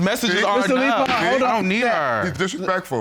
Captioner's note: gavel bangs